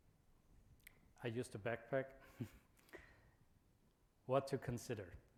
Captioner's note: chuckles